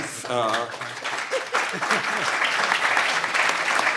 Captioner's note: applauding